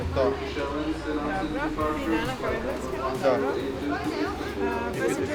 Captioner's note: foreign language